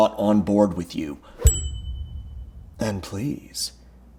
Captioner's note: bell dinging